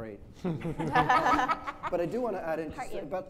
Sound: laughing

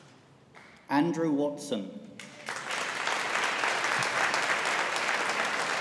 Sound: audience applauding

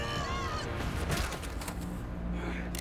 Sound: gun cocks

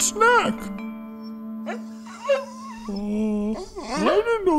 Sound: puppy softly barking

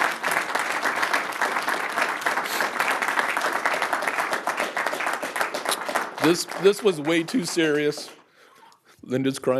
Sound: applause

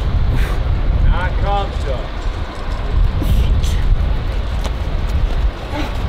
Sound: speaking foreign language

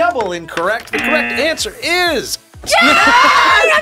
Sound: buzzer rings

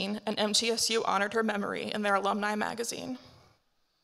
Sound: none

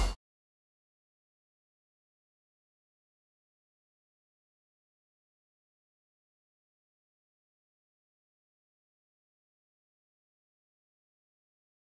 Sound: silence

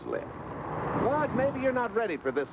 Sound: car engine

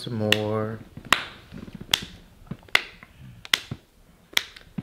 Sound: hands clapping

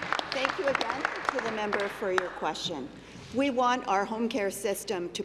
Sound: applause

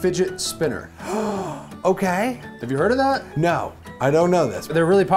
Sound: gasps

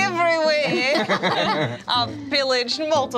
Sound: laughter

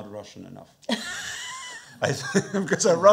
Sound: laughing; chuckles

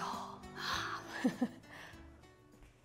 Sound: laughs

